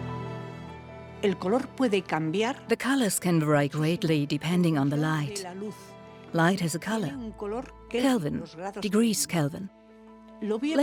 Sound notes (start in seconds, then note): 0.8 in Spanish; 2.7 dubbed in English